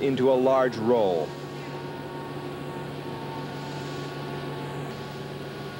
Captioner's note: machinery running